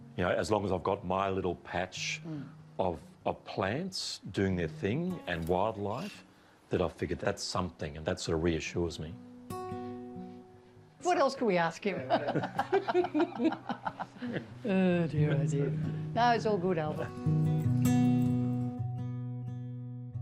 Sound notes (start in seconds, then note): 12.0 both laugh